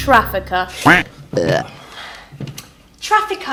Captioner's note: funny buzzing sounds